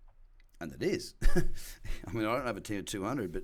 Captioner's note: laughs